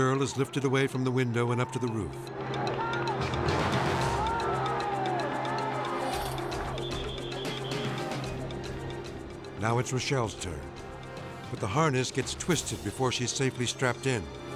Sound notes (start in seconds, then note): 2.4 crowd cheering; 6.1 whistle chirping